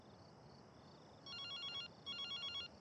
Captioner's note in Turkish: telefon çaliyor